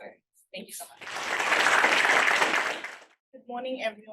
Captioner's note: attendees applauding